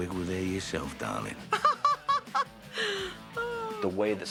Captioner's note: laughing